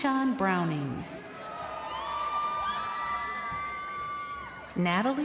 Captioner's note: crowd cheering